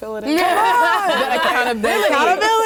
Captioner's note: laughter